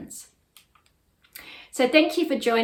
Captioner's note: mouse clicks